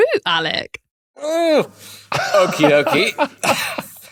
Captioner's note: grunts; laughs